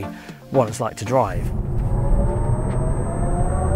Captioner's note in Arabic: أصوات تسارع كهربائي